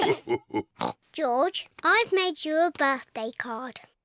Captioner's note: all laugh; oinks